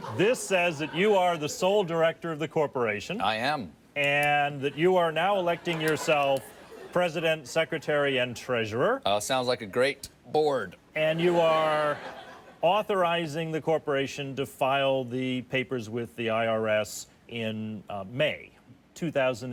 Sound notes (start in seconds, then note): 11.2 audience laughs